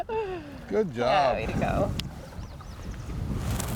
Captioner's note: river gushing